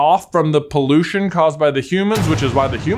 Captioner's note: ominous crashing